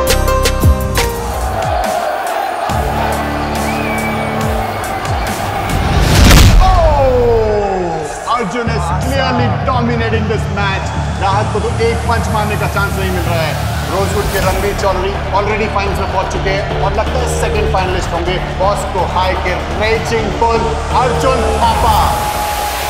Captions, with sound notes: [All cheering] Oh! Arjun is clearly dominating this match. Rahat is not getting even one chance to hit one punch. Ranbir Chowdhary of Rosewood has already reached the final and it seems that the second finalist will be raging bull Arjun Thapa of Bosco High.